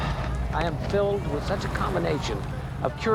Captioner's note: Nash sighing